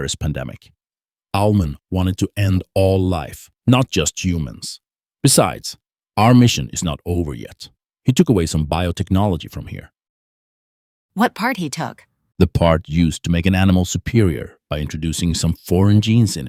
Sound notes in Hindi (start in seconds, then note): none